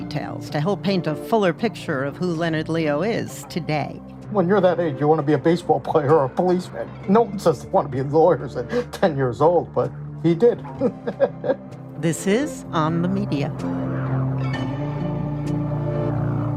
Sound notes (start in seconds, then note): 10.6 chuckles